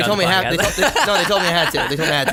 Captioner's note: laughs